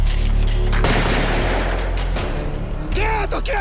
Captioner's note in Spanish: Disparos